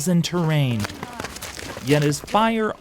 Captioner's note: sounds of boots hiking on trail